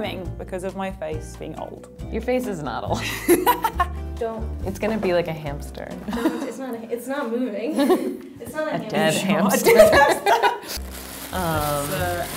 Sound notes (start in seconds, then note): 3.2 laughing; 9.6 laughing